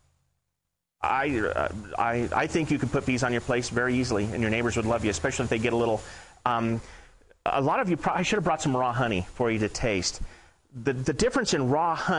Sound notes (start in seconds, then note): none